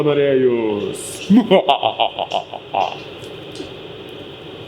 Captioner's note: evil laugh